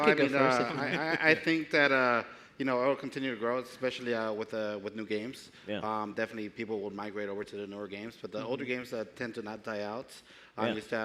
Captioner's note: speaking japanese